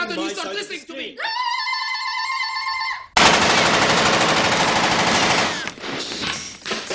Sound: gunshots

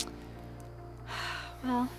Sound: sighs

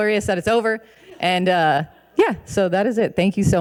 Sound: audience laughing

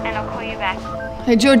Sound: beeping sound

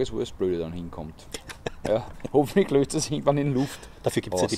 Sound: both laugh

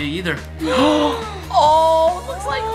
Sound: both gasp

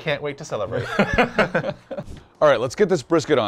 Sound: both chuckling

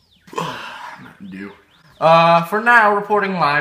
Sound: burps

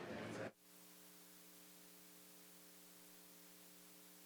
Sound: static

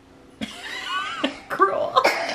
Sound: laughing

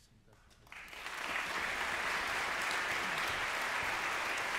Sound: congregation clapping

